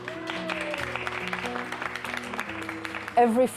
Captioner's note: applause